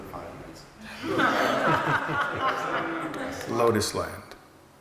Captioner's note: everyone laughing